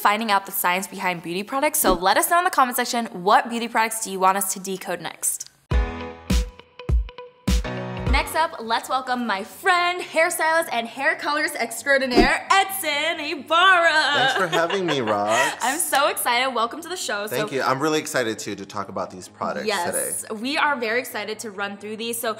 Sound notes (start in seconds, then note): 5.8 upbeat electronic instrumental; 15.6 giggles